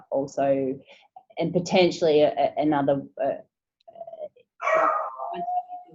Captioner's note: dog barks